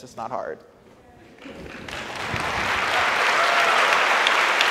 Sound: audience applauds

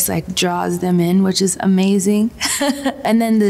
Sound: chuckles

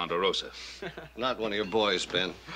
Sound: Little Joe laughs

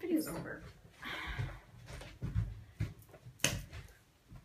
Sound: sighs

